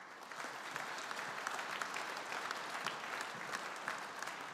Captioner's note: audience applauding